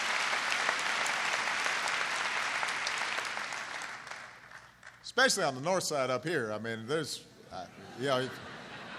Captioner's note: applause; laughter